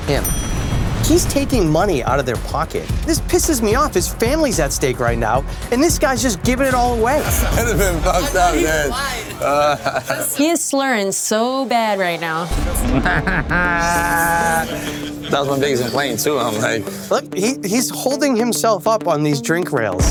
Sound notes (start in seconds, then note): 7.5 slurring; 9.0 laughs; 12.6 laughs; 13.2 slurring